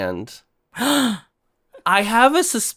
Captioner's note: gasp